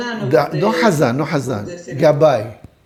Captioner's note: Hebrew